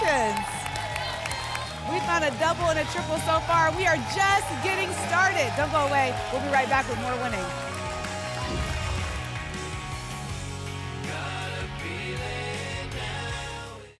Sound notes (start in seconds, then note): 0.2 applause and cheering; 8.4 whoosh